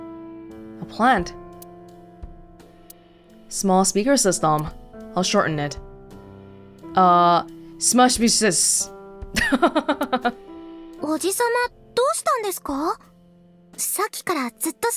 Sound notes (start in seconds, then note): 9.3 chuckles